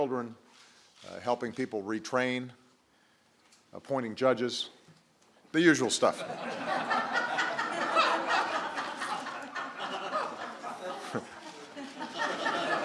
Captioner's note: laughter